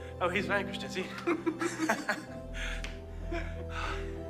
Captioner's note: both laughing